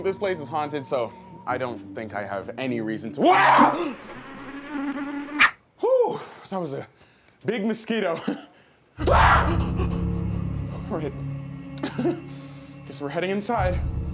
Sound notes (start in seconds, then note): 3.2 screaming; 3.8 buzzing; 7.7 chuckles; 9.0 screaming; 11.8 chuckles